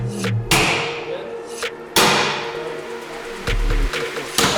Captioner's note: ax clanging